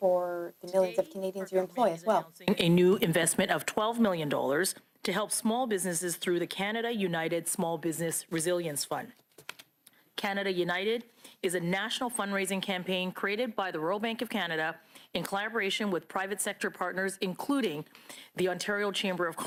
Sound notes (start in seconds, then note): 0.7 speaking French